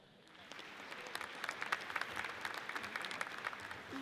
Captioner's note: audience applauds